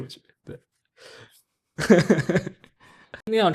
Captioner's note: laughs